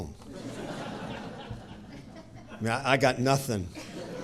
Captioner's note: audience chuckling